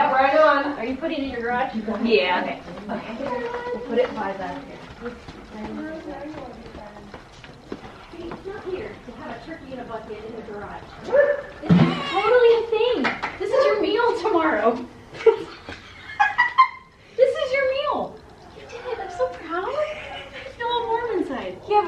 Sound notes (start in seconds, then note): 15.2 both laugh